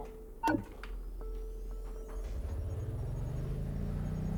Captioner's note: engine humming